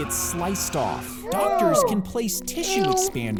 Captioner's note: both gasping